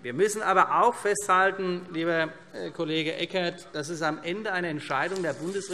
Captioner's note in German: none